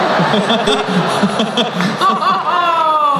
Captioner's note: laughing